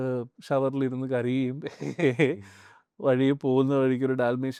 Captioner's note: laughs